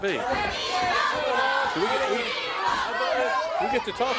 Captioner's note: crowd cheering